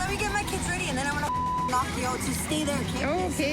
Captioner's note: beep